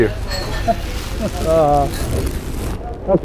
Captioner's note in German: Beide seufzen und lachen